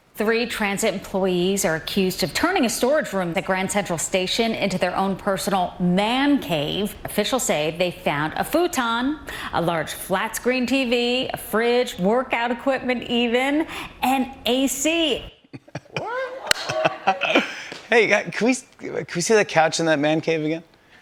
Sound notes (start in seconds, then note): 15.5 laughter